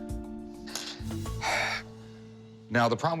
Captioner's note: sighs